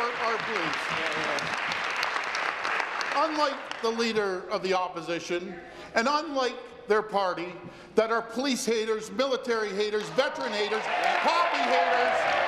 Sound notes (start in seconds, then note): 3.6 applause